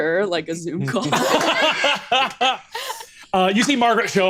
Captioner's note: laughs